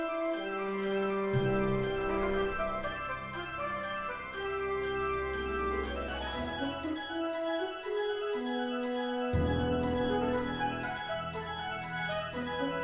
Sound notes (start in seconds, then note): none